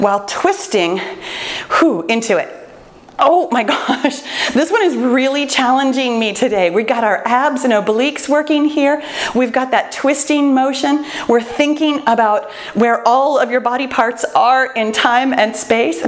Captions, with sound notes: while twisting (exhales) into it. Oh my gosh (laughs), this one is really challenging me today. We've got our abs and obliques working here, we've got that twisting motion, we're thinking about where all of your body parts are in time and space,